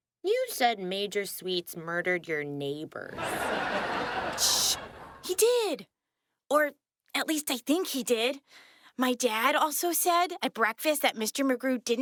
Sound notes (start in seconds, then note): 4.3 Lonney shushes